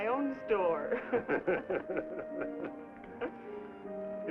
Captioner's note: laughs